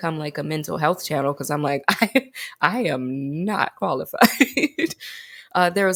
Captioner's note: laughs